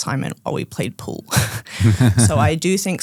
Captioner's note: group laughing